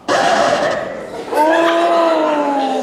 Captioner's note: record scratch